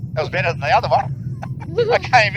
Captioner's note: laughs